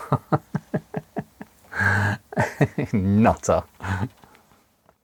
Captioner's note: laughs